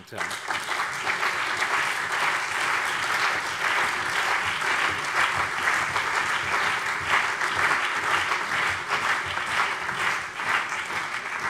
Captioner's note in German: Allgemeiner Beifall